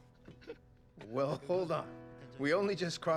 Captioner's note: chuckles